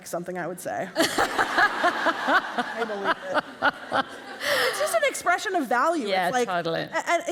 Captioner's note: laughter